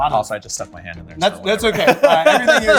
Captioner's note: hearty laughter